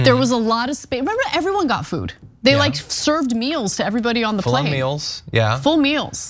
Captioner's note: laugh